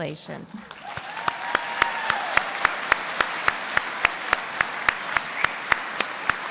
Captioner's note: audience cheering & applauding